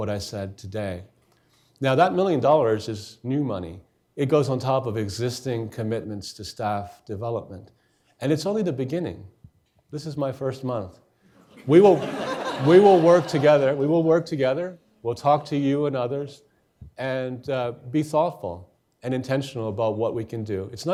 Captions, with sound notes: what I said today. Now that million dollars is new money, it goes on top of existing commitments to staff development. And it's only the beginning, this is my first month. (audience laughing) We will work together. We'll talk to you and others and be thoughtful and intentional about what we can do.